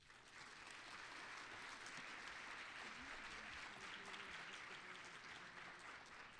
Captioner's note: applause